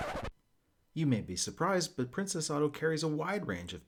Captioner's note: record scratch